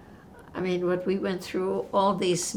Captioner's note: none